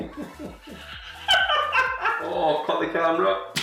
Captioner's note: all laughing